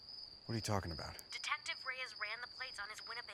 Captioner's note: on phone